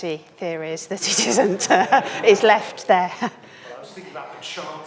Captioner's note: chuckles